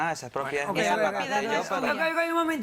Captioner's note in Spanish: Hablan al unísono